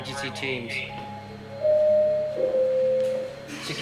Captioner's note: intercom bells